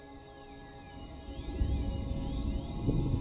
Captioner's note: thunder rumbling; ethereal music builds